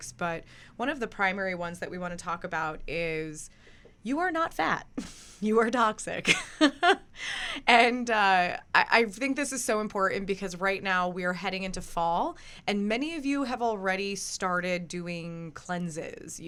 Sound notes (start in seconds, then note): 6.9 laughs